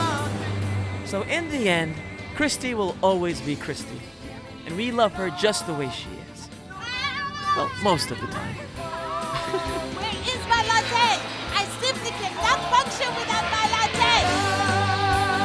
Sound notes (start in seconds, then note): 6.8 screams; 7.6 laughs; 12.9 pop song